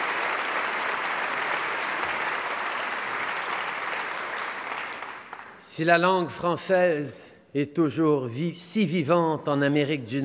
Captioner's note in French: Applaudissements